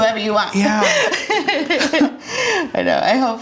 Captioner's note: laughs